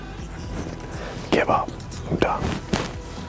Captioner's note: chuckles